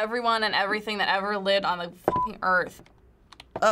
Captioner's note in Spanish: pitido